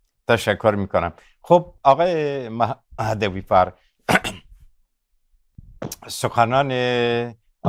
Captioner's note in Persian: گلویش را صاف می‌کند